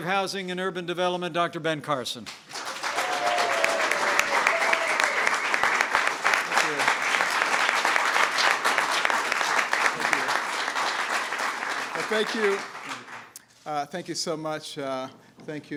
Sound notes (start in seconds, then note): 2.2 applause